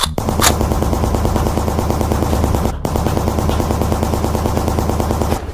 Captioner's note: automatic rifle shots banging